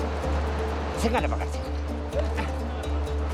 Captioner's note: foreign language spoken